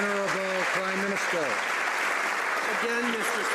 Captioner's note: some Applause